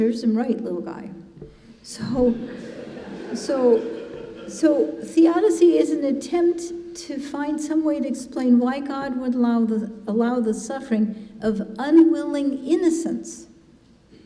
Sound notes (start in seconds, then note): 2.3 congregation laughing